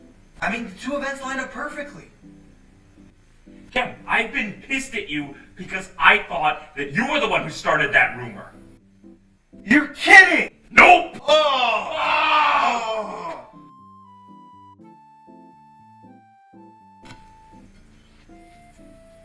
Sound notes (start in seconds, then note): 11.2 both groan